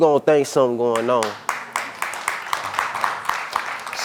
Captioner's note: audience clapping